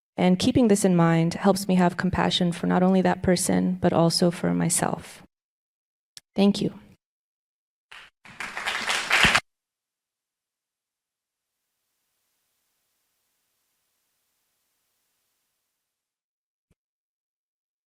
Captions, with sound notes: And keeping this in mind helps me have compassion for not only that person, but also for myself. Thank you. (audience applause)